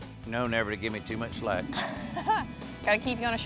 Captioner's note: chuckles